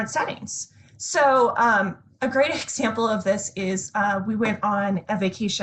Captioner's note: laughs